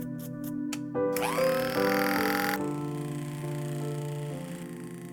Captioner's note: clippers buzz